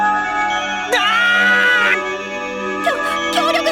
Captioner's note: pained cry